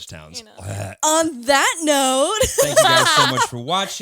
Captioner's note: laughs